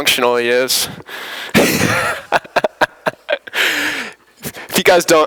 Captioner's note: laughter